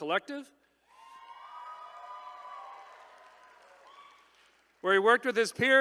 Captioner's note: attendees cheering